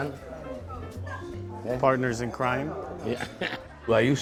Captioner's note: chuckles